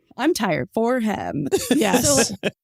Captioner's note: laughs